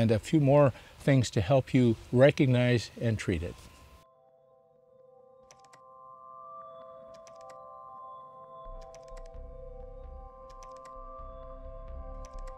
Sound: keyboard clacking

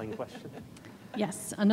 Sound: laughs

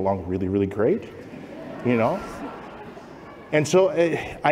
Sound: laughter

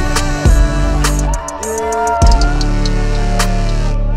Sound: family cheering

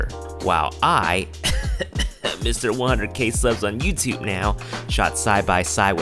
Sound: cough cough

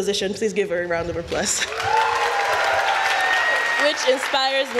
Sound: applause

